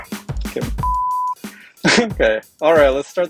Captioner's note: laughter